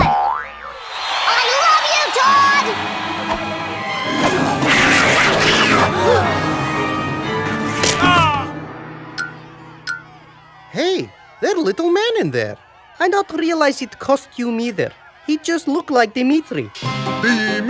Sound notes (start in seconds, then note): 4.0 ferocious growls; 5.2 gasps